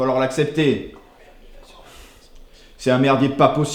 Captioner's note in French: chuchotements